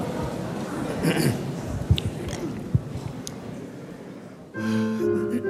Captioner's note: Cantor clears throat; soft piano music